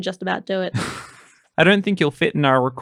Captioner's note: laughter